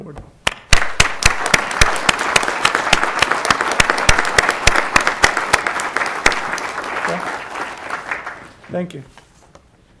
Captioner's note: applause